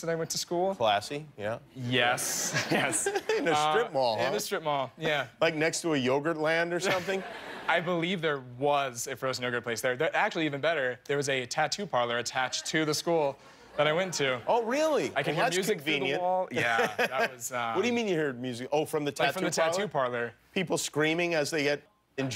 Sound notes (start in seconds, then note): 4.4 laughter